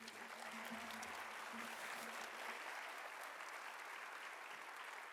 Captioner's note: audience applauding